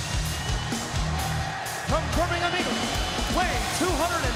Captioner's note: crowd cheering